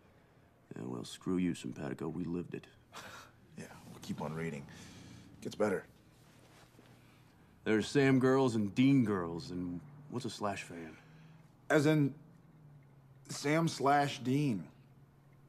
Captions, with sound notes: Yeah well screw you Simpatico, we lived it. *Laughs* Yeah, well keep on reading, it gets better. There are Sam girls and Dean girls and- what's a slash fan? As in Sam slash Dean...